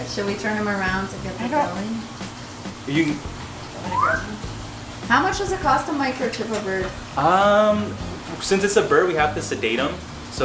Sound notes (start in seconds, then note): 3.8 whistles softly